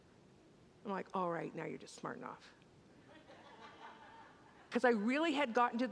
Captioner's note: congregants laugh